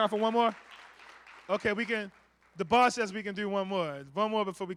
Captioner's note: applause